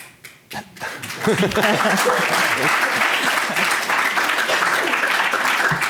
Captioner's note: applause